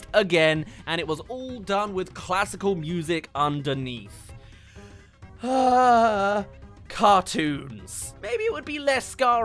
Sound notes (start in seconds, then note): 5.3 sigh